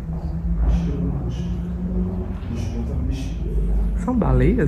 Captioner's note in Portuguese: conversas distantes